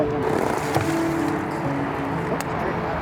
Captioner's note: water swooshing; gentle music